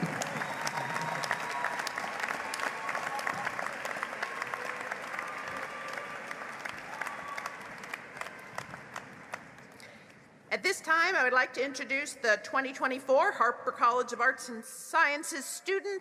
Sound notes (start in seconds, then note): 2.4 applause